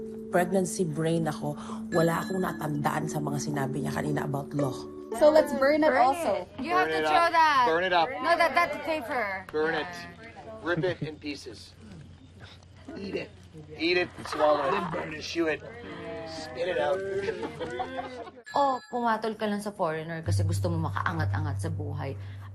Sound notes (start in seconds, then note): 17.2 woman chuckling